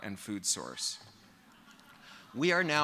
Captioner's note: laughter